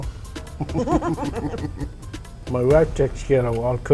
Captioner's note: ^laughter^